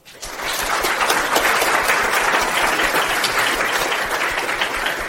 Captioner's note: audience applauds